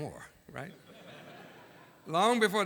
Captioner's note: laughter